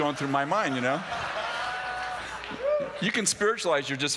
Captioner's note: laughter